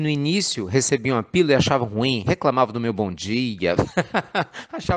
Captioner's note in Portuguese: Risos